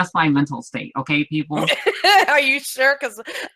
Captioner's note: laughs